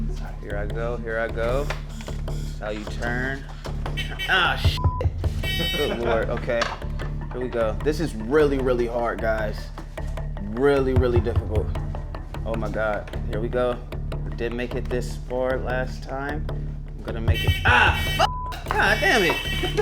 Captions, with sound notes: Here I go, here I go, this is how you turn... (hooter buzzing) Ah sh--(beep). Good lord, okay, here we go. This is really, really hard guys. Really, really difficult. Oh my God, here we go. We did make it this far last time, I'm gonna make it-- Ah f--(beep), God dammit!